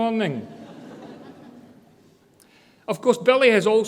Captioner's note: audience laughter